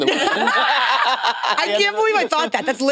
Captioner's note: participants laughing